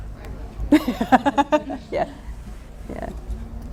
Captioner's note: laughing